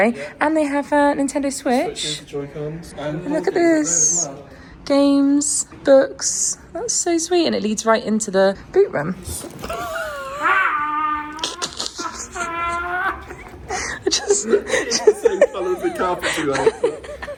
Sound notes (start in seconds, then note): 9.6 laughs; 14.3 laughs